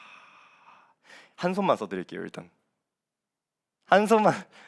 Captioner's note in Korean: 한숨